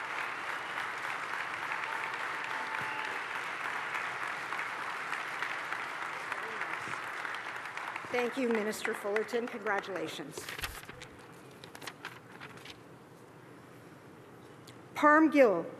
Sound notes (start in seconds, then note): 4.2 cheers and applause